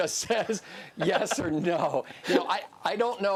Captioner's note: laughs